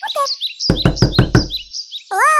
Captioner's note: door knock